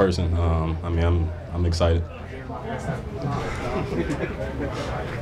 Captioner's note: laughs